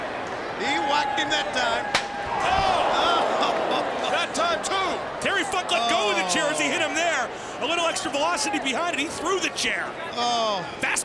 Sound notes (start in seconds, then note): 2.1 chair bangs